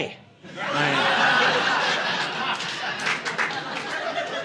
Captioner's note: audience laughing